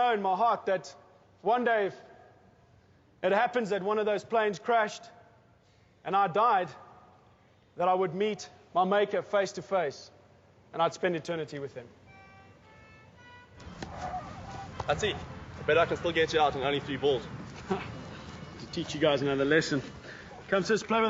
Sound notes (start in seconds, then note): 12.0 soft upbeat music; 17.3 laughs